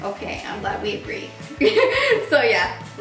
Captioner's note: laughs